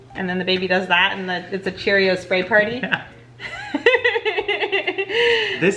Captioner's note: laughing